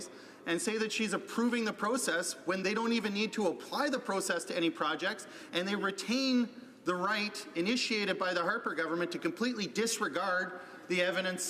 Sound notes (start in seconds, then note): none